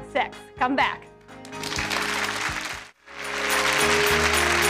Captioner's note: inspirational music; audience applauds